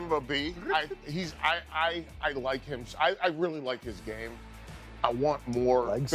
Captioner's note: laughter